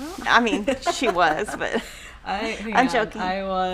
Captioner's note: laughing